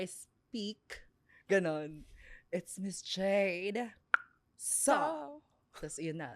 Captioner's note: clicks tongue